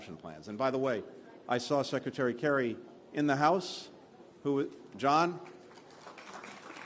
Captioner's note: applause